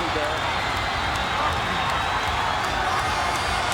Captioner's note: audience cheering